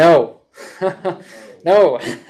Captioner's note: laughs